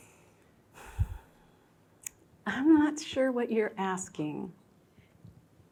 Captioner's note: sighing